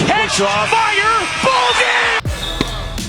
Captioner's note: crowd cheers; upbeat orchestral music